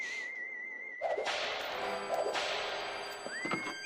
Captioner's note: whip snapping